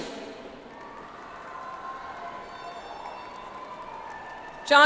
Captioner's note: audience applauds